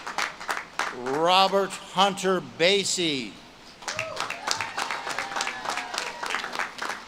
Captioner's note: audience claps and cheers